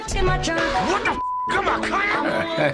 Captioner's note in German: Piepton; kichert